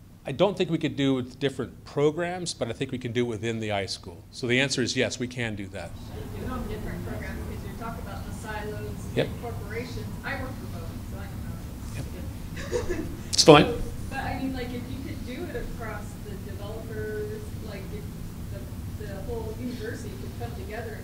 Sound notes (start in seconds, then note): 6.3 voiceover; 12.5 laughs; 14.1 voiceover